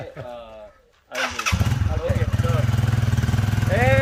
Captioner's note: vehicle noise